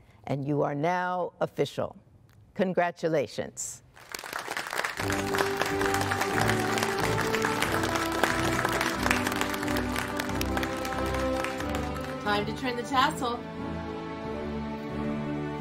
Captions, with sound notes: You are now official. Congratulations. [APPLAUSE]. Time to turn the tassel.